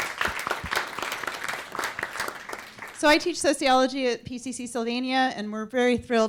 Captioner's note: applause